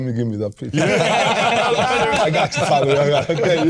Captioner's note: all laughing